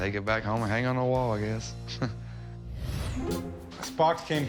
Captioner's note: chuckles